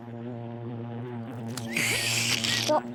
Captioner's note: buzzing; slurps; belches